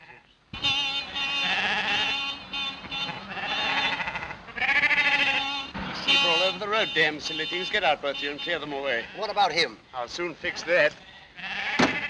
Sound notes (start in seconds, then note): 0.5 horn honking; 3.1 bleating continues